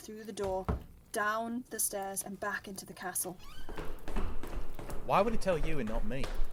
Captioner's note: door closes, footsteps, the voices fade